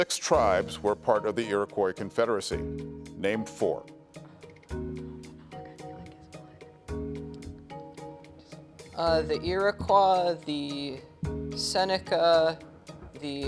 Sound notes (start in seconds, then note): 5.1 teammates whispering